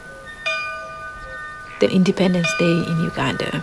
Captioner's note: bell ringing